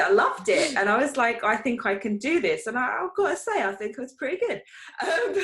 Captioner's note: chuckles